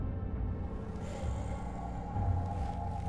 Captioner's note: monster softly growling; tense music